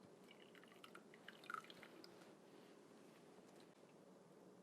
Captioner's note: liquid dribbles